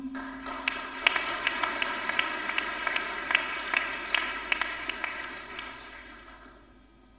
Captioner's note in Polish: oklaski